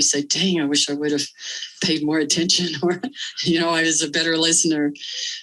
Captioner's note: laughter